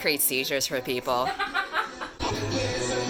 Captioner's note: laughs